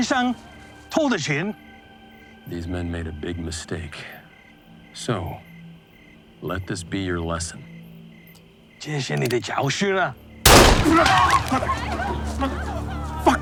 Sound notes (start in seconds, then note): 0.1 translator speaking Chinese; 9.0 translator speaking Chinese; 10.4 gun blasting; 10.6 workers yelling